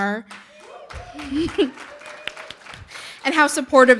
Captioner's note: audience applauding; chuckling